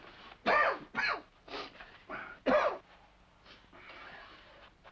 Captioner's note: Rochester coughs